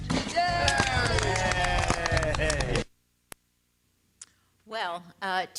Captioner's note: clapping offscreen